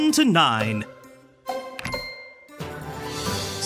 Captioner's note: clock dings